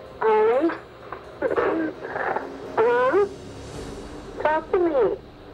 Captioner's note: quiet crying